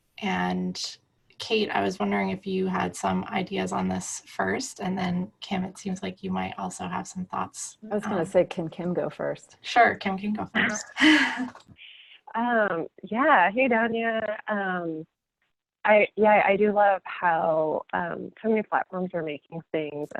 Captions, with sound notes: And Kate, I was wondering if you had some ideas on this first and then Kim, it seems like you might also have some thoughts. I was gonna say, can Kim go first? Sure, Kim can go first. (laughing) Yeah, hey Danya. Yeah, I do love how so many platforms are making things